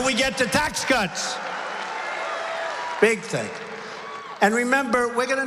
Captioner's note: applause